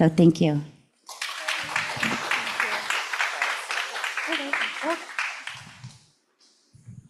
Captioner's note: applause